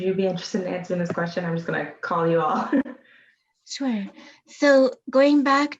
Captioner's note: laughs